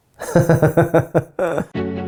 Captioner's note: laughs; uplifting instrumental